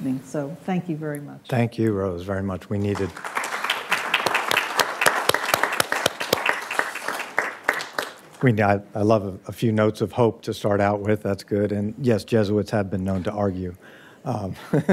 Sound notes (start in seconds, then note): 2.8 audience applauding